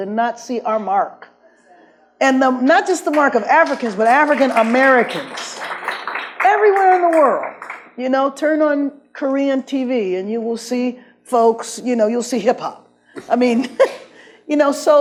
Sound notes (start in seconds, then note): 3.0 audience claps